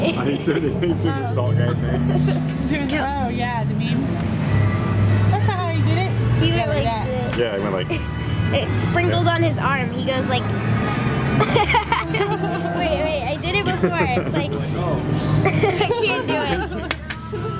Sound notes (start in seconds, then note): 11.3 laughing; 15.2 laughs